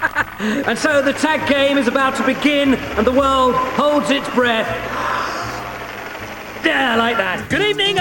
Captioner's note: inhales